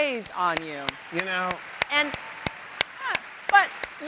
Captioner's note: audience applauds